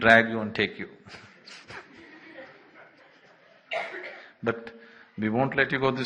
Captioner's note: laughter